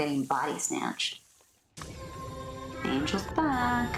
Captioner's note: more alien beam-y type sounds with Angel bleping